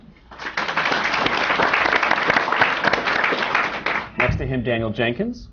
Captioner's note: applause